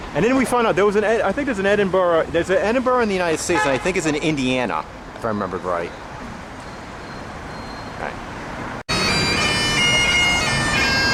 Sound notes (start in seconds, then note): 3.4 car Horn